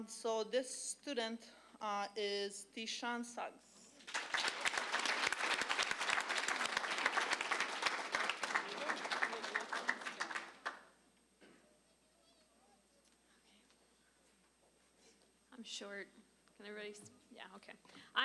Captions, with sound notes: SO THIS STUDENT IS TEASHAWN SUGGS. (applause) >> I'M SHORT. CAN EVERYBODY STILL-- YEAH, OKAY.